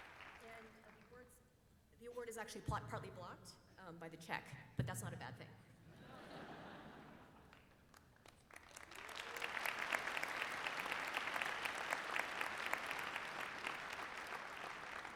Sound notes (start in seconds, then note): 11.1 applause